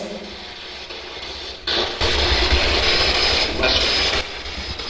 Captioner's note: static buzzing